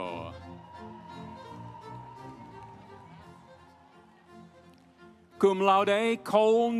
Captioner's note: audience cheering; instrumental music